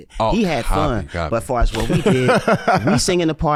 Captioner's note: laughs